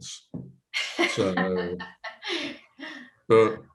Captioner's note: laughs